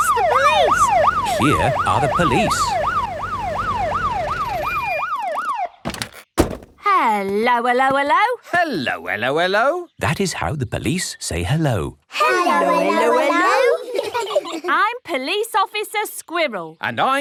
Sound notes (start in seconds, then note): 0.0 siren wailing; 5.9 siren stops; 12.2 children giggle